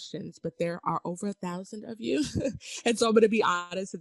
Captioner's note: laughs